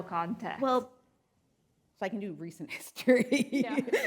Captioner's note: laughs